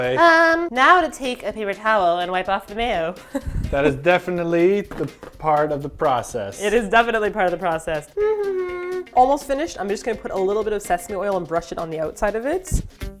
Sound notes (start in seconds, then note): 8.1 humming again